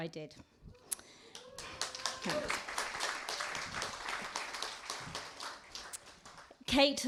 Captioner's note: applause